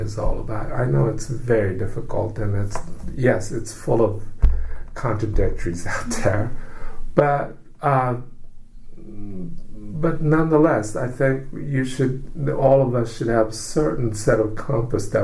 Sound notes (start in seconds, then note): 5.9 laughs